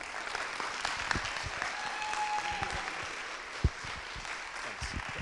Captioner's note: audience clapping